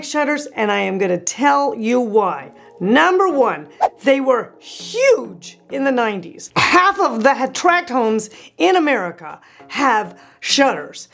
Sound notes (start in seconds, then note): 3.8 soft whoosh